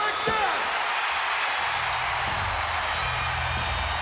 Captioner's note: crowd cheering